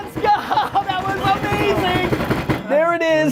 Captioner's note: laughing; hands drumming on the table